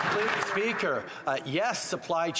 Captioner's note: applause